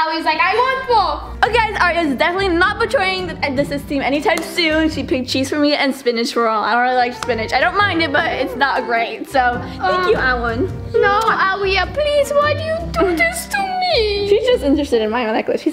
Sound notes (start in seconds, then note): 11.1 kissing sound